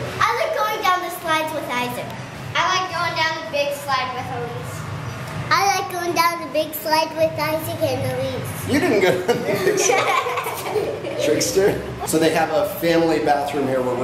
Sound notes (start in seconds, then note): 8.7 laughing